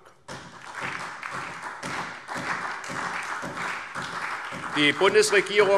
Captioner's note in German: Beifall SPD